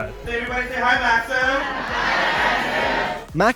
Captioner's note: croud